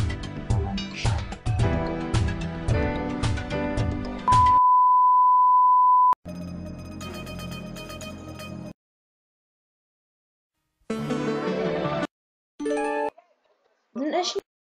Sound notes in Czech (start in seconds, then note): none